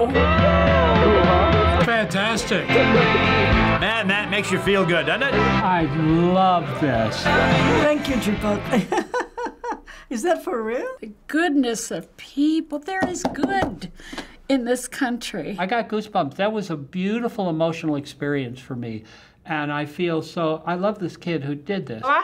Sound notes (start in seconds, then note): 0.4 upbeat music; 8.6 chuckles